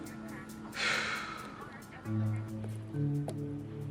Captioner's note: sighs